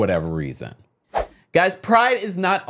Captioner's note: air whooshing